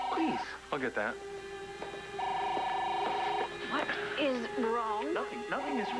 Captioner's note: phone rings